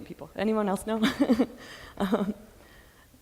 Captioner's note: laughs